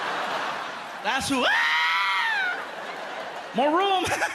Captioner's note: laughter; screams; laughs